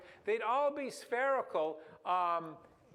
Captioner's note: none